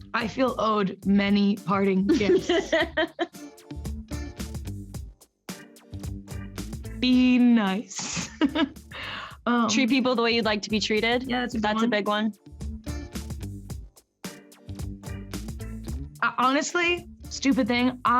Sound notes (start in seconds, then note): 1.9 Camila laughs; 7.8 laughs; 14.2 upbeat music